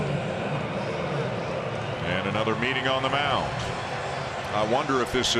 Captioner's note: applause